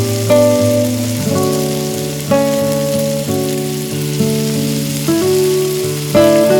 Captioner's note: fry pan sizzle intensifies